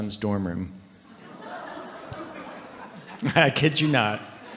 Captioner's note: audience laughing